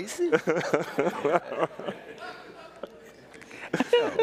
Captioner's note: all laughing